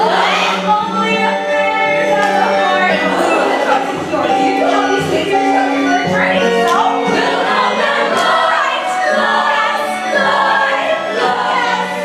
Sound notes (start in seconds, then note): 3.4 groan; 8.0 singing